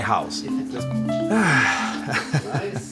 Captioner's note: sigh